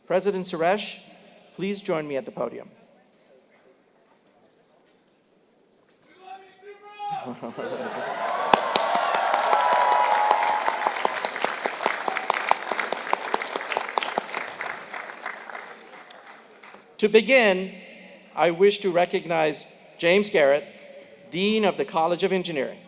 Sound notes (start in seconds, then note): 7.0 laugh; 7.6 applause